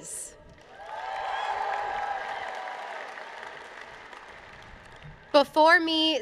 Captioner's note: applause